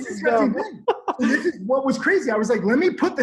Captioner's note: laughs